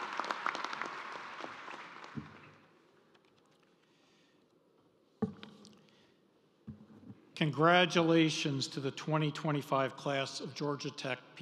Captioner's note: applause